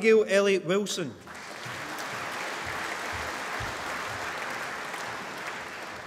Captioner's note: applause